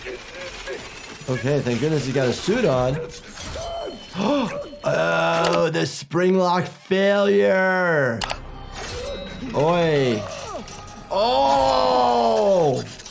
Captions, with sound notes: (character struggling, grunting) Okay, thank goodness you got a suit on. (character screaming) Oh, the spring lock failure! (character gasping, screaming) Oy! Oh!